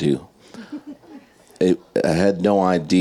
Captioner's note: audience and panelists laughing